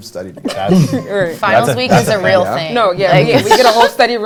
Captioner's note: laughter